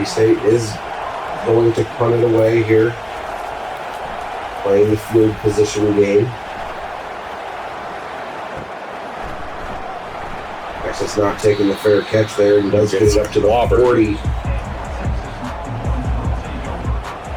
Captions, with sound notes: Mississippi State is going to cut it away here. [Crowd Noises] Playing the fluid position again. [Crowd Noises] Actually it's not taking the fair catch there and does get up to the offer. [Crowd Noises]